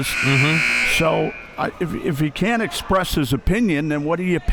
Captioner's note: buzzer blaring